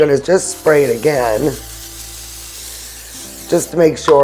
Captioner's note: can spraying